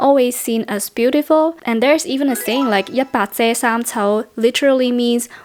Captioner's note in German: Kantonesisch